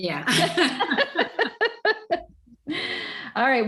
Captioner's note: all laugh